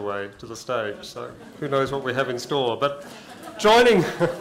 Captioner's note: laughter